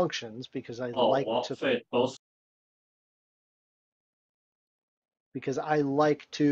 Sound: crackling drowns out attendee

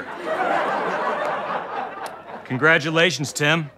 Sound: audience laughter

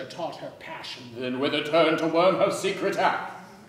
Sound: none

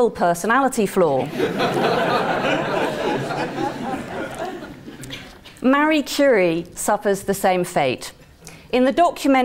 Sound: laugh

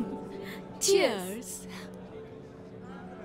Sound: glasses clinking

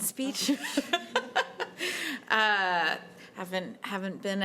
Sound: laughter

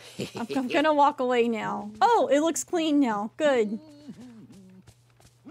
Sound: goofy Humming

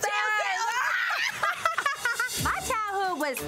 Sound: both screams playfully

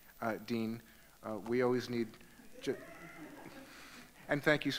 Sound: audience laughing

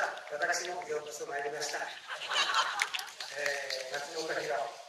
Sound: laughs

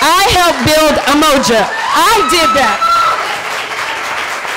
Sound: cheering

